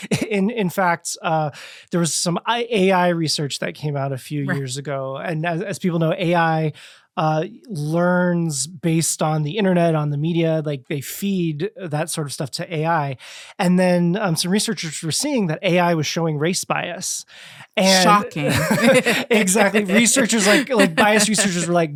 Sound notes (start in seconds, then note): 18.2 sarcastically